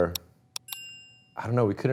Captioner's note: bell chiming